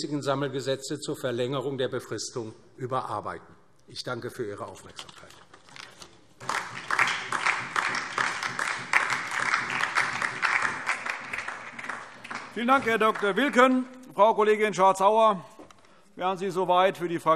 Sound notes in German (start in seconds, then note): 6.4 Beifall DIE LINKE und SPD